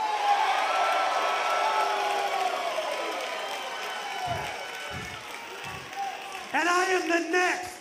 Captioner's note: crowd cheering